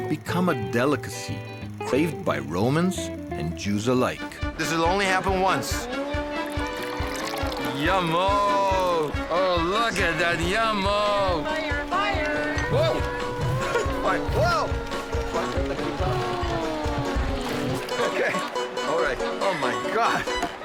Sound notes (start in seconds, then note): 6.3 liquid sloshing